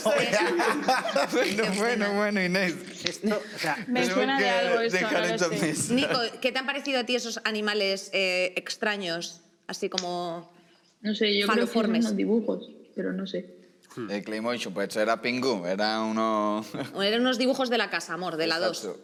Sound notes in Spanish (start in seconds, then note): 0.0 ríe